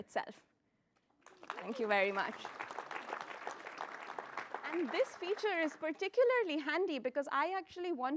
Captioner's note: applause